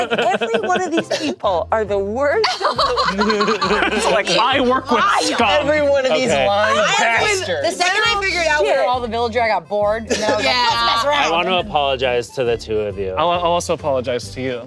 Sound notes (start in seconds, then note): 2.4 group laughing